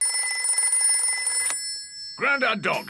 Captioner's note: rings